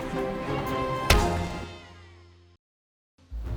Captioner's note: pow